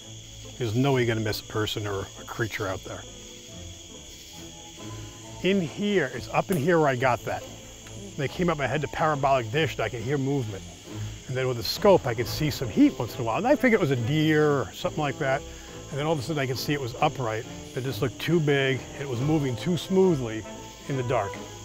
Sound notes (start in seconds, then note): 3.5 crickets chirping; 11.8 crickets chirping